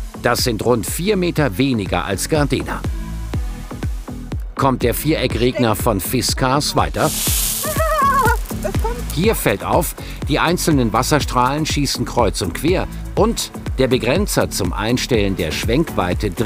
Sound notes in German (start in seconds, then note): 7.6 Kreischende Laute